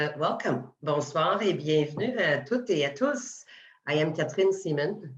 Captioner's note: speaking French: Bonsoir et bienvenue à tous et à toutes